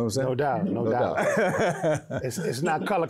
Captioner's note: laughs